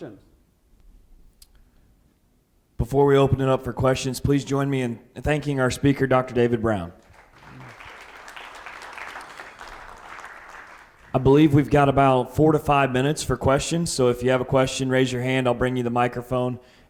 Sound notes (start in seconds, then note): 9.4 audience clapping